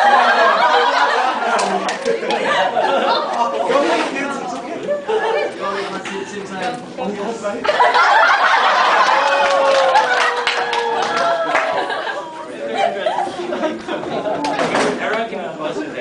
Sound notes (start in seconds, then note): 0.9 laughter; 7.8 applause and laughter throughout